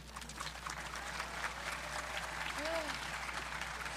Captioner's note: audience clapping